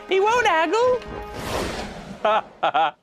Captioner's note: chuckles; Sharon laughs